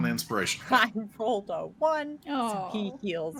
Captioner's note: laughs